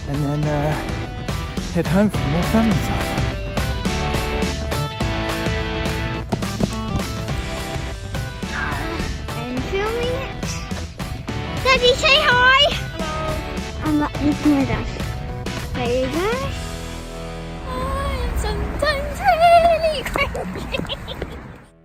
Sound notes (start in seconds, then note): 3.5 upbeat music; 8.2 groans